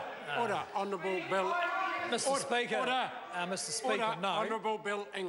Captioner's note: members shout